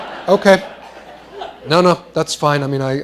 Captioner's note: laughter